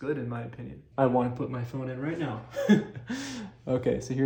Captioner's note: laughs